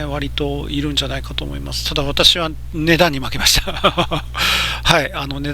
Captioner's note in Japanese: 笑い